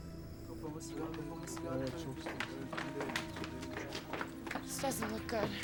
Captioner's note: speaking in a foreign language